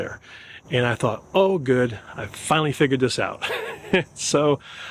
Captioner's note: laughs